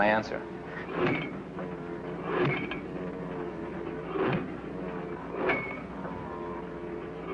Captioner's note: drilling noise